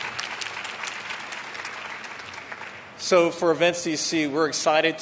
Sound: applause

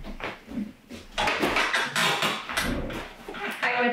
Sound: footsteps; chair creaks

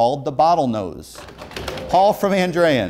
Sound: beeping

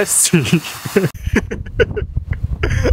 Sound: laughs

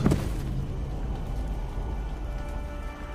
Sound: rain pattering

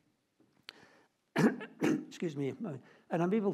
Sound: coughs

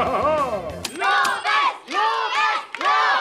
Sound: cheering

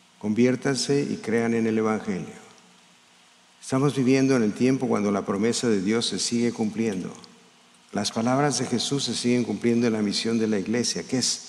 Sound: speaking in spanish

